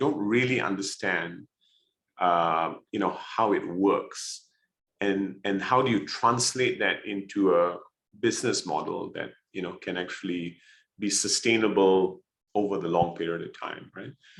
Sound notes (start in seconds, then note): none